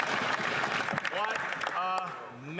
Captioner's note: some Applause